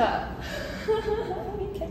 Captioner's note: laughs